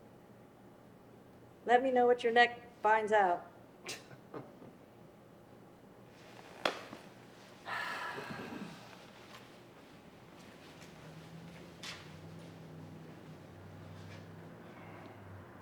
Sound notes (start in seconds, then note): 4.4 chuckles; 7.6 sighs